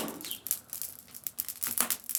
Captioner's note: crackling fire